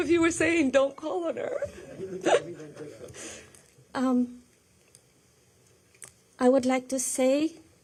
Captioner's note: laughter